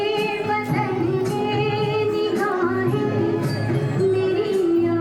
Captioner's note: children chattering